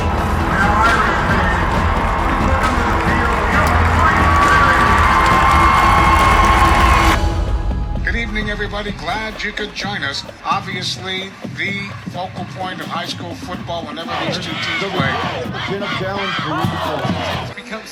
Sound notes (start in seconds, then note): 5.9 cheering; 8.5 radio Announcer